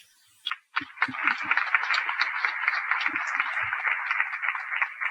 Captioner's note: applause